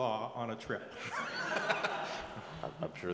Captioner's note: laugh